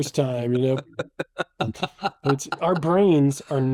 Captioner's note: laughing